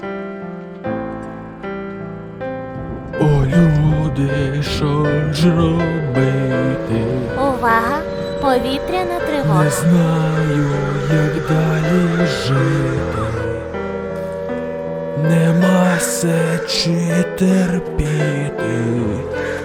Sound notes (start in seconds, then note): 7.7 attention air alarm